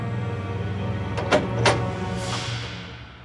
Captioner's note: door clicks